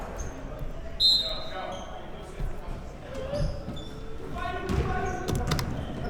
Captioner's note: whistle blows